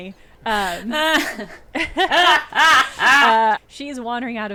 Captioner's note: laughing